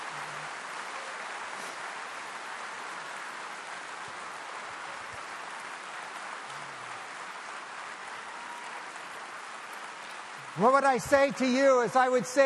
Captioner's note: clapping